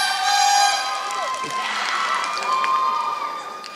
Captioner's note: applause